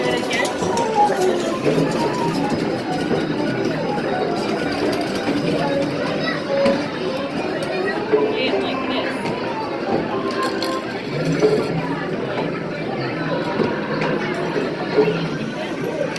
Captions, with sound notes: Wanna do it again? Lay it like this. (coin clattering) Coin. Put it in.